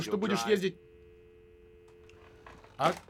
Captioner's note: click, dial tone